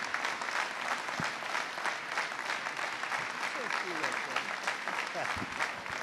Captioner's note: applause